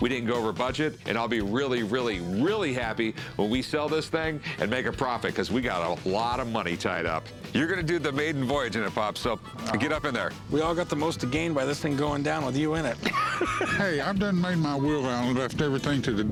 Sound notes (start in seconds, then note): 12.8 laughs